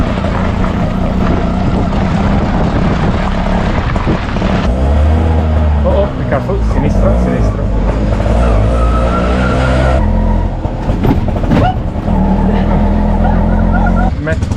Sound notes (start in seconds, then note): 0.2 rickshaw engine; 6.7 in Italian; 7.8 rickshaw engine; 12.1 laughs